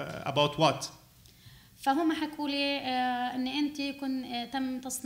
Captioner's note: speaking arabic